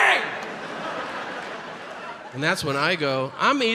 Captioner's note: audience laughs